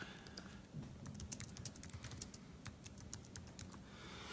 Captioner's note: keys tapping